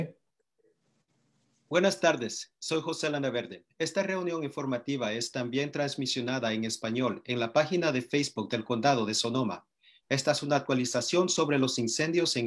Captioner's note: speaking Spanish